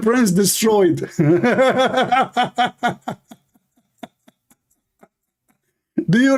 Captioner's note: Ketawa